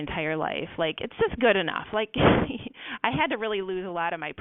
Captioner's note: laughs